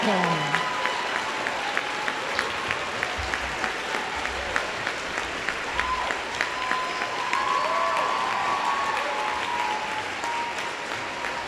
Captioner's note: applause